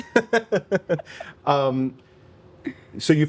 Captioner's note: laughing